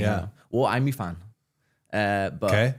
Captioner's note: speaking in foreign language